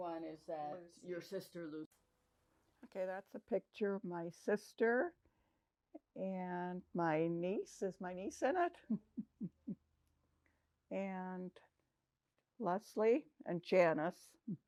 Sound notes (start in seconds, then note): 8.8 laughing